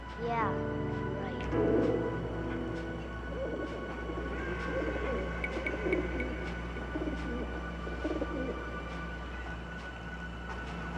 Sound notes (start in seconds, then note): 1.7 pigeons coo